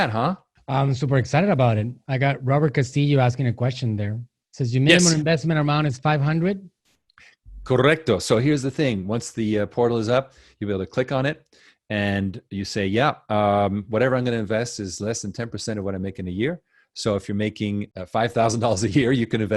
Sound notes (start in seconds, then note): 6.3 speaking foreign language